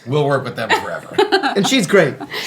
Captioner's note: laughing